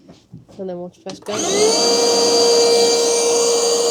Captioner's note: sawing